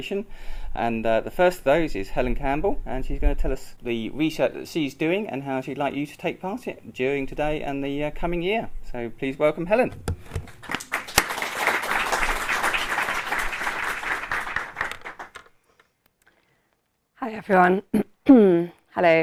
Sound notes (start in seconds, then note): 10.4 applause